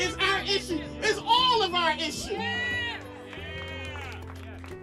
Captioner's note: audience cheers